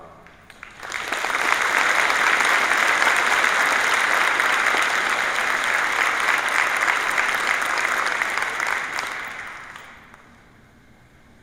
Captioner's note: applause